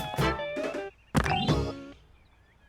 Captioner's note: rocks thump